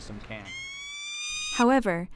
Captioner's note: peregrine falcon wailing